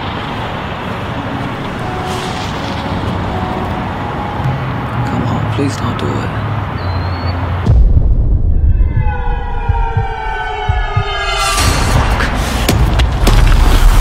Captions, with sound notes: Come on, please don't do it. (heartbeat pounding)